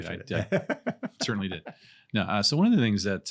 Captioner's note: laughs